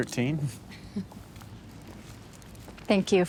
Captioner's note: Rachel chuckles